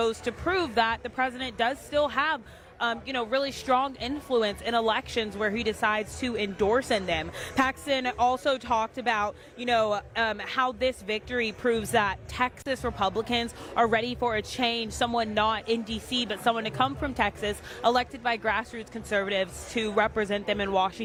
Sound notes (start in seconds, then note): none